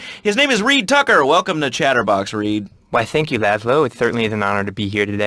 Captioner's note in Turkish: peltek bir sesle